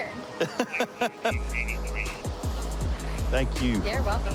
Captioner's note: laughing